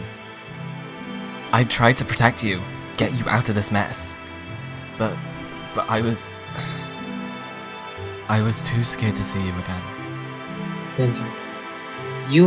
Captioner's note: sighs